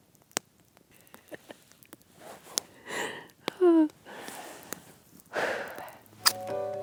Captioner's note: laughter